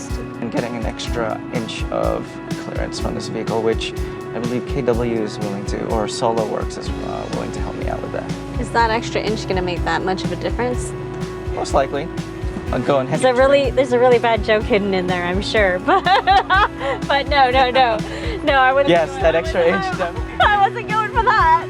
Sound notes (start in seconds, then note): 15.8 laughs